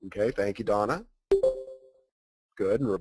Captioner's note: digital pinging